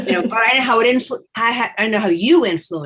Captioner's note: laughs